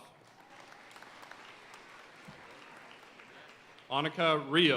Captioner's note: audience cheering and applauding